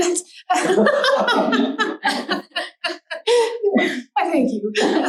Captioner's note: laughter